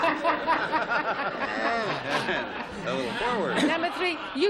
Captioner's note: laughs; laughter